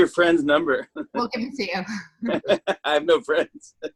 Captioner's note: laughter